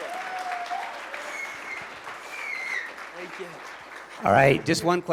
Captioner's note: applause